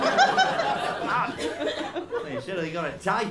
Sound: laughter

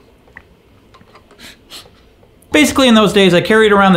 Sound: sniffing

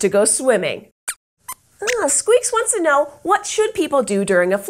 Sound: squeaks squeaks

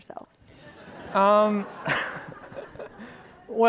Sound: audience laughing

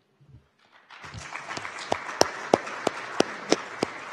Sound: audience applauds

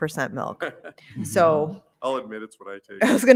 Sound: laughing

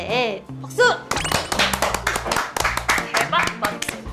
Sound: clap

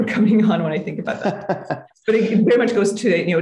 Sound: laughs

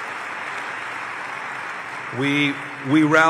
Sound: applause

